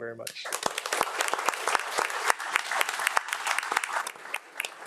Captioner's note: audience applauding